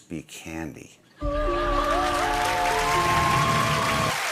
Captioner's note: cheers and applause